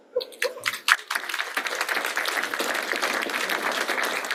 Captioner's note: applause